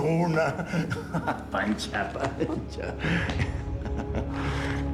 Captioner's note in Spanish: Ríe